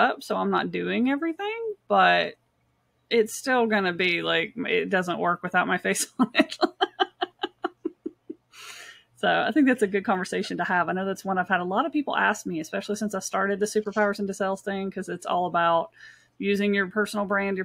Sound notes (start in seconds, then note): 6.0 laughing